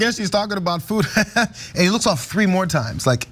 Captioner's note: laugh